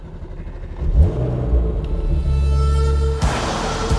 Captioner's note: engine roars to life